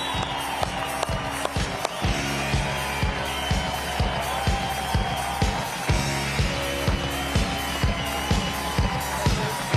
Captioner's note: cheering and applause